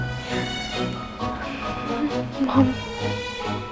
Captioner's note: Gasps